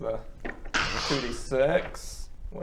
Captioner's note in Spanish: crrrussccsh